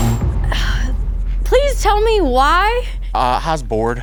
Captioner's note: sighs